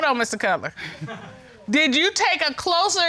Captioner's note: audience chuckling